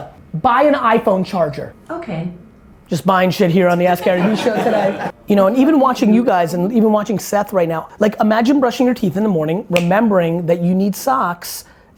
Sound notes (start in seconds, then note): 3.9 laughs